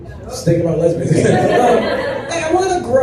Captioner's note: laughter